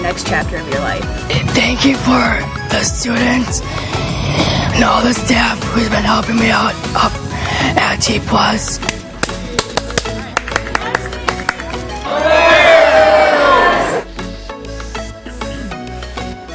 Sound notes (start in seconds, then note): 9.1 clapping; 11.9 people cheering; 13.3 upbeat pop music